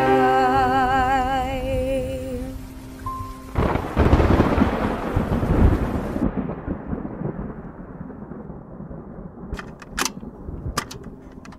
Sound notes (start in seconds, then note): 3.2 thunder crashes